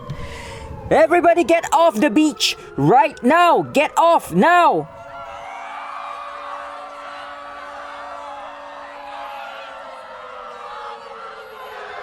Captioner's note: crowd in panic